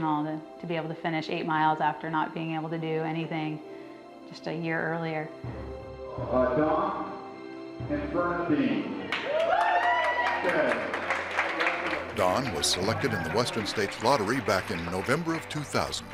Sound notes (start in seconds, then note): 5.7 voice on PA; 9.1 clapping